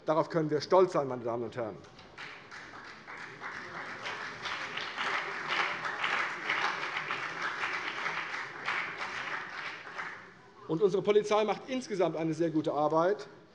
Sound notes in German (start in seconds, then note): 4.4 Beifall CDU und vereinzelt BÜNDNIS 90/DIE GRÜNEN